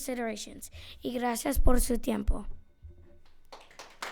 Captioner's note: speaking foreign language; audience clapping